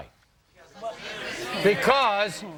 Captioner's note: audience murmurs